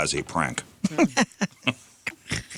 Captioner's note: laughing